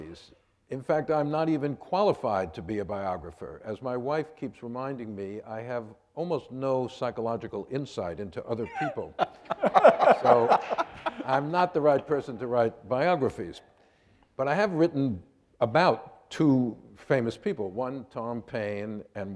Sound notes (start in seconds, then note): 10.2 laughing